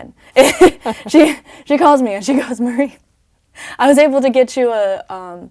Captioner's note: laugh